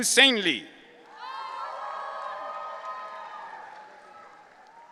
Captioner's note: audience cheering